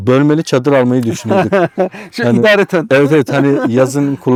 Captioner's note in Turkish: kahkaha